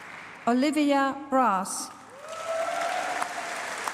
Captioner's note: applause